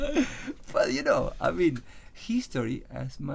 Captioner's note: laughs